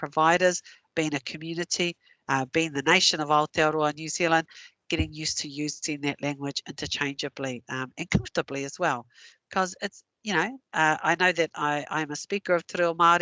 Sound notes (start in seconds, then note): 3.4 non-english